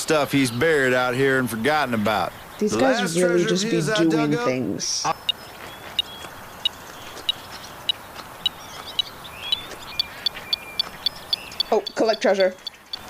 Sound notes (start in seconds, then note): 5.0 beeping; 11.2 beeping increases